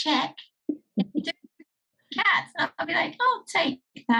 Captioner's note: chuckles